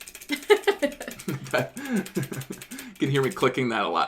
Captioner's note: laughter